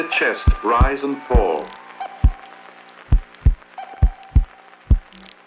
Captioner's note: heartbeat thumping